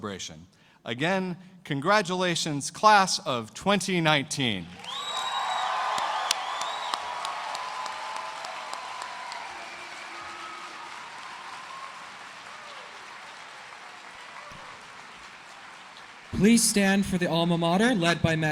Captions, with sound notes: AND OUR GRADUATES PROCESS THE HALL PLEASE JOIN US OUTSIDE FOR A RECEPTION TO CONTINUE THE CELEBRATION. AGAIN, CONGRATULATIONS CLASS OF 2019. [CHEERS AND APPLAUSE]